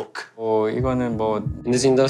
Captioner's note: speaks korean